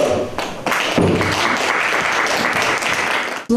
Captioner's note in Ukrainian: оплески